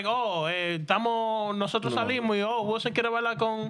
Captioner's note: speaking In Spanish